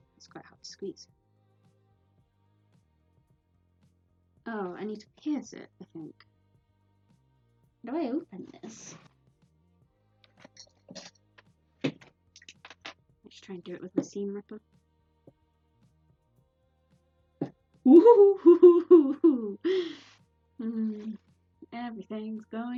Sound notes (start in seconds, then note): 14.8 ooo hoo hoo noises